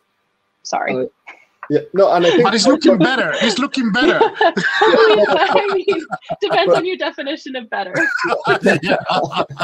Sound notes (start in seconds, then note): 2.0 laughs; 4.4 overlapping chatter; 4.4 panelists laughing; 7.9 panelists laughing